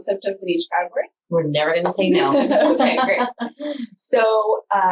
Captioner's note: laughs